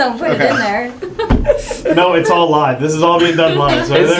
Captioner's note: laugh